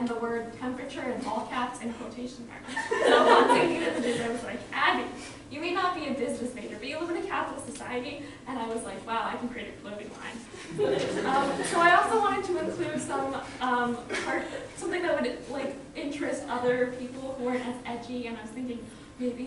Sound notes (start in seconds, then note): 2.7 laughter